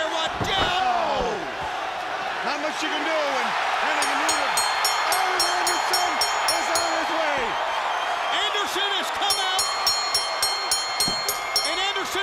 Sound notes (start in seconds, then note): 4.1 crowd cheering; 7.4 bell ringing